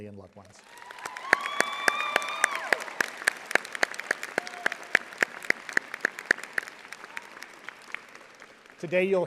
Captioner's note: audience applauding